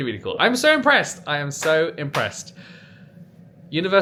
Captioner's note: hand smacking